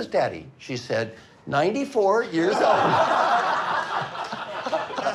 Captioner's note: laughing